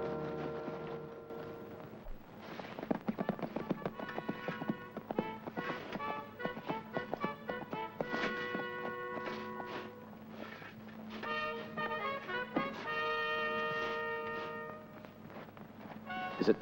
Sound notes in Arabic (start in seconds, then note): 2.3 تعزف الأبواق بشكل مشؤوم; 2.3 ضربات حوافر; 11.2 تعزف الأبواق بشكل مشؤوم